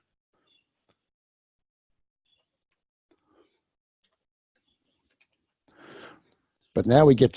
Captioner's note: pause